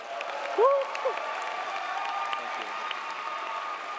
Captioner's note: audience applauding